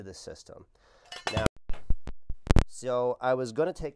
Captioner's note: clanking